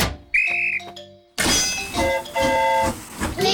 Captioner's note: blows whistle; train horn toots